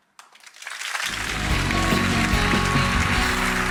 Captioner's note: audience applauds